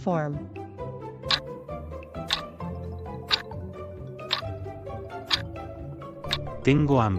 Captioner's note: FX - Clock Tick